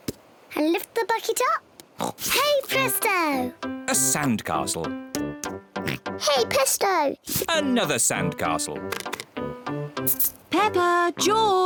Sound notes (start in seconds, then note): 2.0 oinks; 5.8 oinks